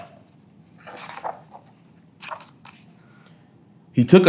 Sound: pages rustling

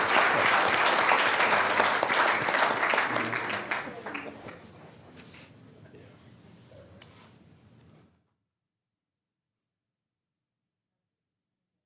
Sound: applause

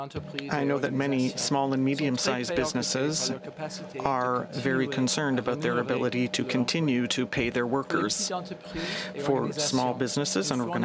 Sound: speaking french

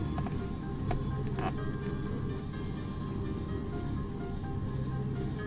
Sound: radio chiming

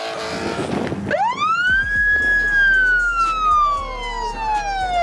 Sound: police sirens

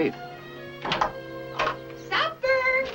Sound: door creaking

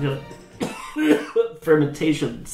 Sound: coughs

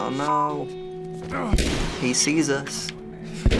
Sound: gunshot

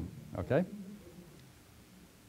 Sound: pause

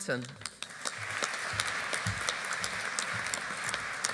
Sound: audience applauding

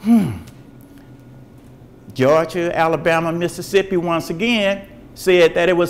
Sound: sighs

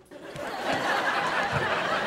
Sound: laughing

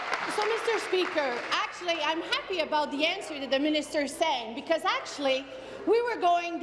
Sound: applause

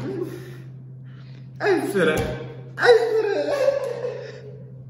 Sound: gypsy crying

